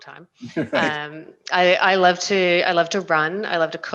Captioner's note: laughs